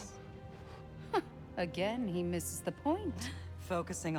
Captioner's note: laugh